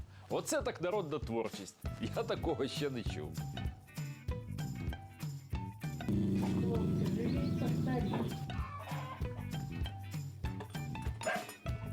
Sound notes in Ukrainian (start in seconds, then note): 6.1 собака гирчить